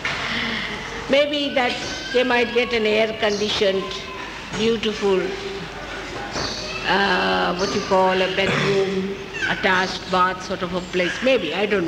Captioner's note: laughs